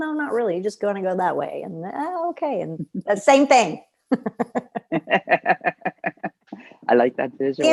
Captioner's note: laughter